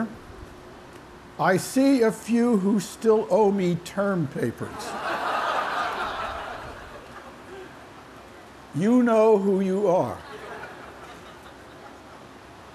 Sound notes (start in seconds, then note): 4.7 laughter